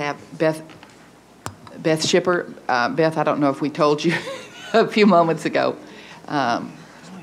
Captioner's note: laughs